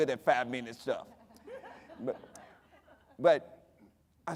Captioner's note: audience laughing